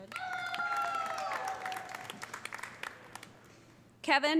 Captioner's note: audience applauding; audience cheering